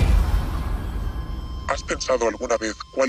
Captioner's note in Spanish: voz distorsionada